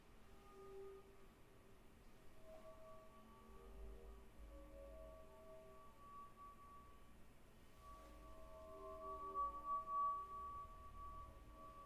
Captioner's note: high pitched sound playing